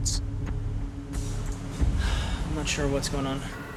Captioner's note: sighs